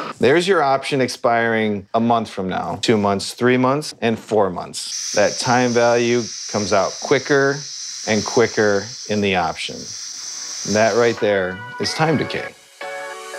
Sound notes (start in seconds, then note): 5.0 air hissing; 9.8 air hissing